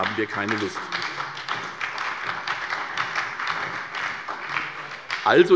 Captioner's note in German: Beifall bei der SPD